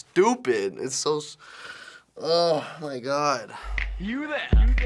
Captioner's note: groans